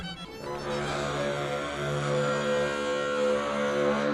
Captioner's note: horn blowing